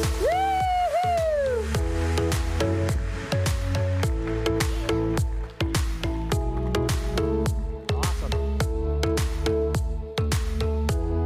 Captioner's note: applause